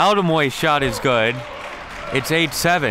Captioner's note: crowd clapping